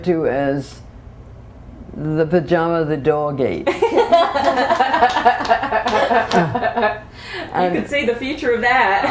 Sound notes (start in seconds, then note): 3.6 laughter